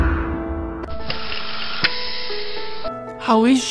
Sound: breathing

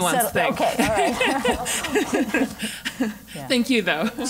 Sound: laugh

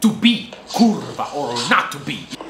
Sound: foreign language

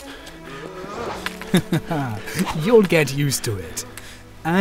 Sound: laughs

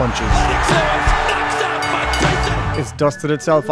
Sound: crowd cheering

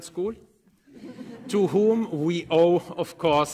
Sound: group laughing

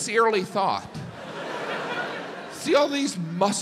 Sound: audience laughs

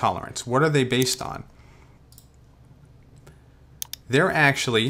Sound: mouse clicks

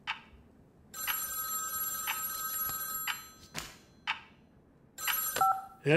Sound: phone ringing

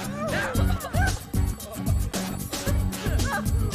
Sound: laughs

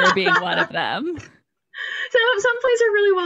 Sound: laughs

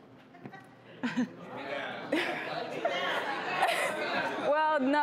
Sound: crowd heckling

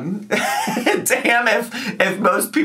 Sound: laughing

